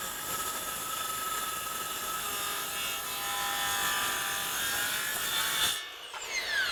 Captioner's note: saw whirring while cutting board